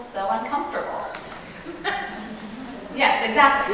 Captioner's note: laughter